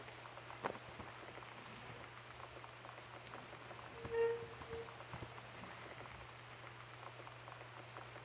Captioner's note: sliding and Metal Scraping